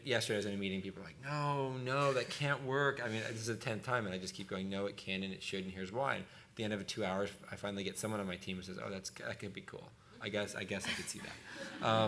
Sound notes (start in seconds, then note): 2.3 laughing; 10.8 laughter